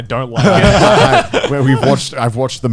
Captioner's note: all laughing